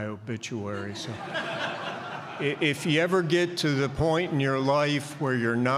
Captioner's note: laughter